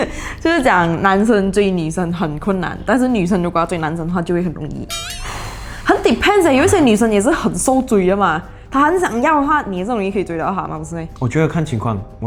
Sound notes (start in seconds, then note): 5.2 sighs